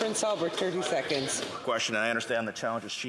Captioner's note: speaking indigenous language